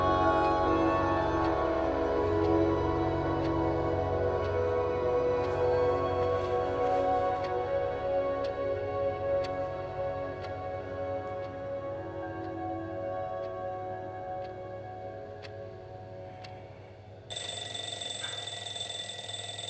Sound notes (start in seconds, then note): 7.5 clock ticking; 17.2 ringing alarm clock